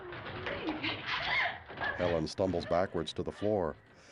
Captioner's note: gasping